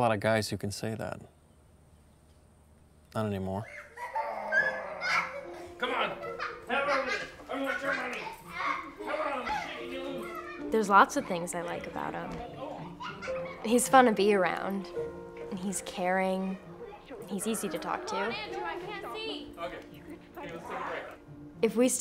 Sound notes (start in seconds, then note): 3.6 children playing